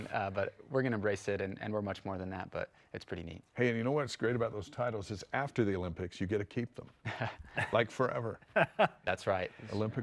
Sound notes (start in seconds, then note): 8.4 chuckles; 8.5 laughs